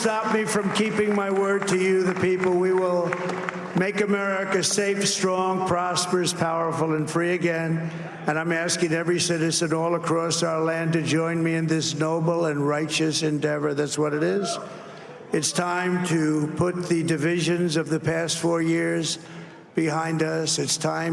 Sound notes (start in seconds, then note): 4.0 cheers and applause